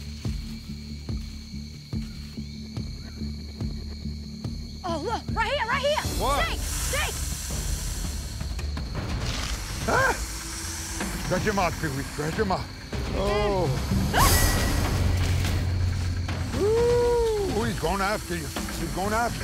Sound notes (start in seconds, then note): 7.5 hissing